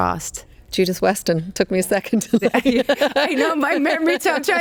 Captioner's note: laughs